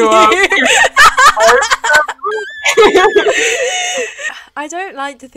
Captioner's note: laughing a little too hard at Basil's terrible segue